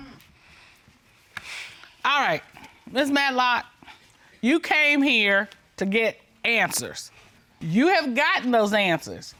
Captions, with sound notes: -[sighs] -All right, Ms. Matlock... you came here to get answers, you have gotten those answers.